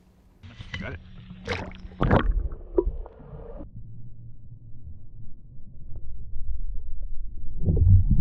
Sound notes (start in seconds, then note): 1.2 submerged burbling